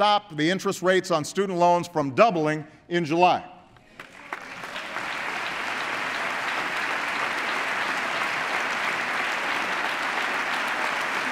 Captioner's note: applause